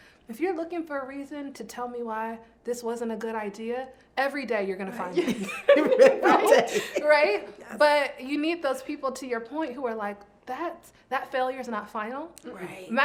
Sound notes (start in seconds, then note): 5.1 all laughing